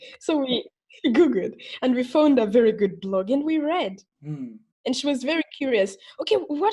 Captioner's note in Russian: хм